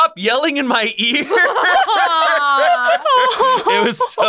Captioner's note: all laughing